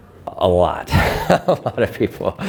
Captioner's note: laughter